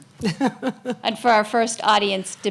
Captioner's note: laughs